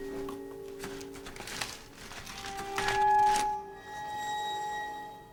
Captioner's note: plastic shuffling